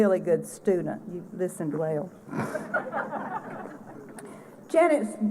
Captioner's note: laughter